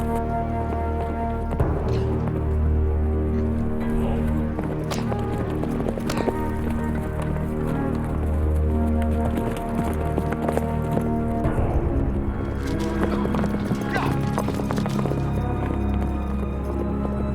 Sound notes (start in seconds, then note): 3.3 chortles; 4.6 horses galloping